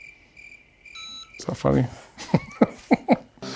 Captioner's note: crickets chirping; device beeps; chuckles